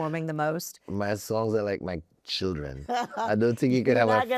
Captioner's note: laughs